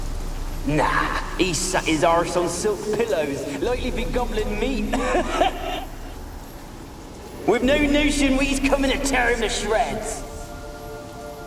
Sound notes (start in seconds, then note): 4.8 laugh